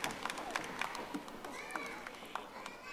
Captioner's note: audience applauding